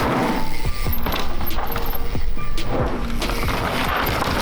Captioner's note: gravel grinding; chain whirring